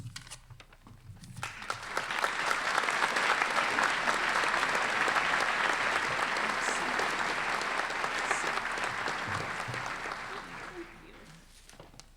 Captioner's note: applause